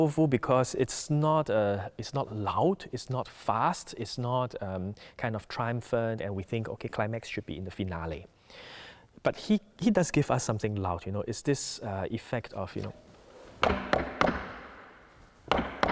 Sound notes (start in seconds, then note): 13.6 knocks